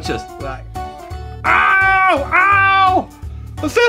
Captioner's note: yells